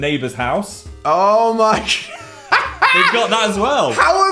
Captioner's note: laughs